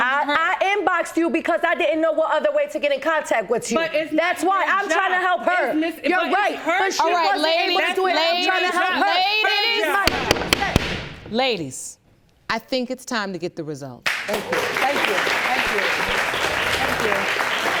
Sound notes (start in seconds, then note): 10.0 bangs gavel